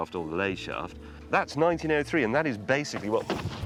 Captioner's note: thunk